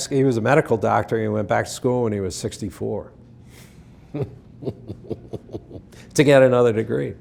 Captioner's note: laughing